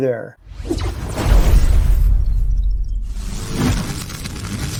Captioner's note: exploding stinger